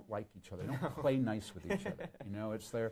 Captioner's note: laughing